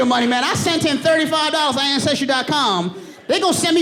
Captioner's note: audience laughing